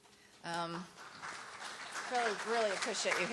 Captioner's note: audience applauds